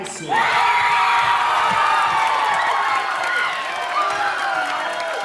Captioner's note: audience cheering and applauding